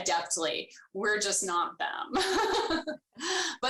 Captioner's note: laughs